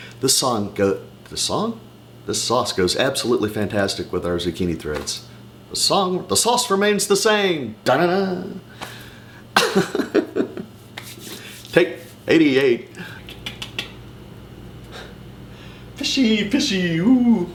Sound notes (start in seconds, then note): 9.4 laughs